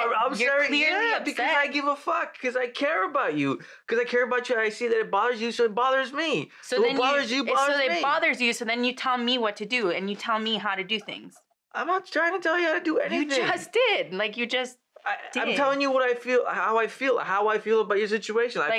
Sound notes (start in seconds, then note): 11.1 Val stammers; 14.8 he stammers